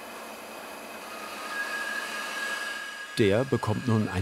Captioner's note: noisy grinding begins